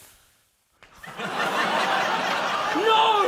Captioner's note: laughter